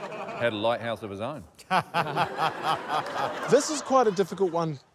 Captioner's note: laughter